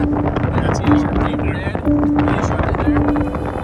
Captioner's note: wind drowns out speaker